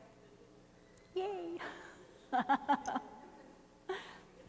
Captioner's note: laughing